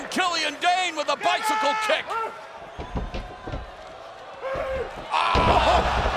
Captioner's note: wrestler screams